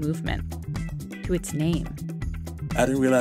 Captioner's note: soundbite of archived recording